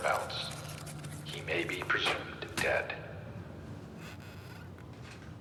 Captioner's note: paper pattering; chair squeaking